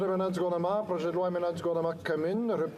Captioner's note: speaking French